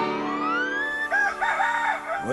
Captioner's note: crickets chirping; rooster crows